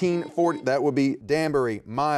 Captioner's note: buzzer beeping